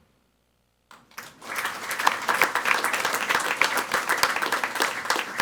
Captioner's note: people clapping